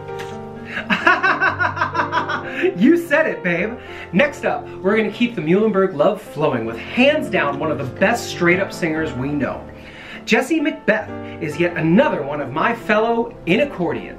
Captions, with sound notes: [manufactured laugh] You said it, babe! Next up, we’re keeping the Muhlenberg love flowing with hands down one of the best straight-up singers we know. Jessie MacBeth is yet another one of my fellow Inacchordians,